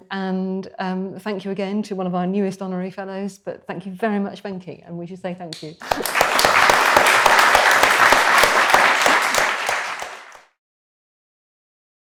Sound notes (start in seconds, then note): 5.8 audience clapping